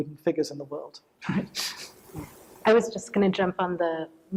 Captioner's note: chuckles